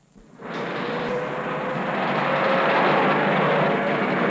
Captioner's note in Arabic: المركبات تصدر صوتا